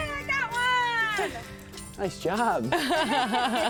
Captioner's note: laughing